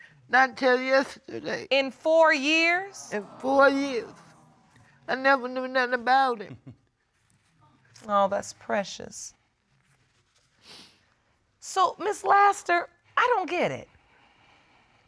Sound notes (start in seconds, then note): 2.9 audience exclaiming